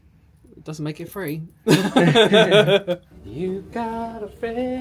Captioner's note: laughing